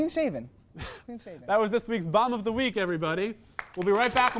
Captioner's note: wheeze